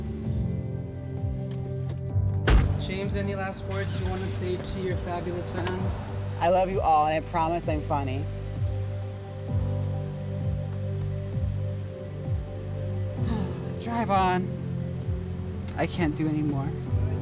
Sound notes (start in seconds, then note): 11.1 sigh